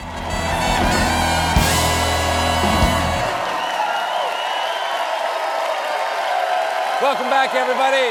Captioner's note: cheers and applause